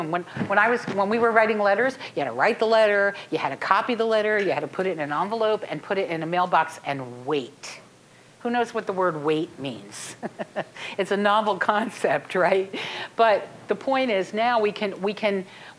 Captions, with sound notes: When we were writing letters, you had to write the letter, you had to copy the letter, you had to put it in an envelope, and put it in the mailbox and wait. Who knows what the word "wait" means? (chuckling) It's a novel concept, right? But the point is now we can--